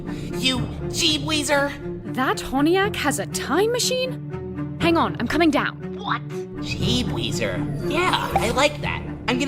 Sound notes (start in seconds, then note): 5.9 mic, through headphones